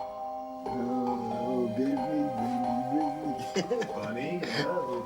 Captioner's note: softly muttering; chuckles